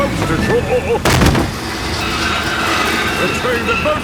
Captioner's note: thud